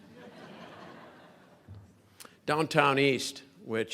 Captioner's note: crowd laughing